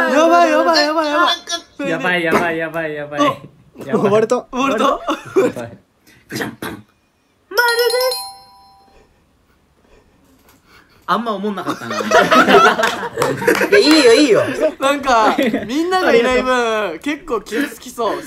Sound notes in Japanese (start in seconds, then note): 12.7 大爆笑